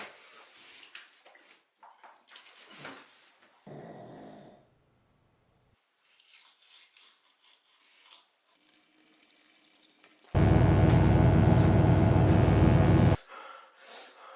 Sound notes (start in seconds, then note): 3.7 Phil snoring; 10.3 electric buzzing; 14.1 Phil panting